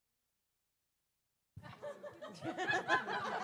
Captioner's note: laugh